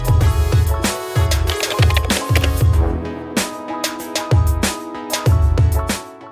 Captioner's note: upbeat music; keyboard clatter